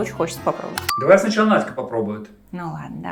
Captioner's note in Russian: закадровый голос